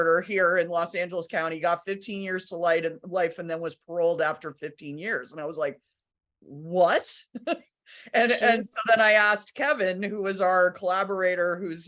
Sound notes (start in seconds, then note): 7.4 laughs